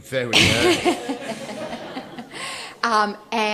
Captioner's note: laughter